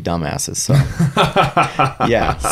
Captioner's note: laughing